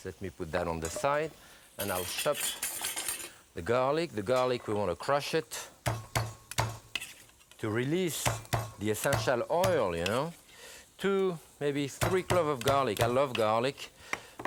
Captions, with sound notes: Let me put that on the side and I'll chop the garlic. The garlic, we wanna crush it. (palm pounding) To release the essential oil, you know? Two, maybe, three clove of garlic. I love garlic.